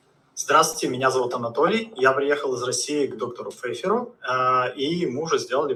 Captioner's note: patient speaking in Russian